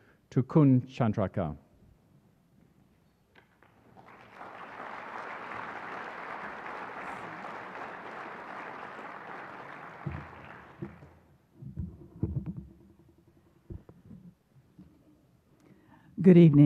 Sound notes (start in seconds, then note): 3.5 applause